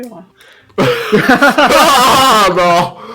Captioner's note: general laugh